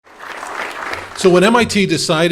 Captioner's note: applause